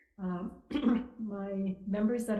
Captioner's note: clears throat